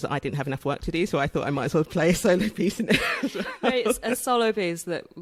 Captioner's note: laughs